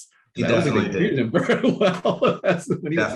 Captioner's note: laughing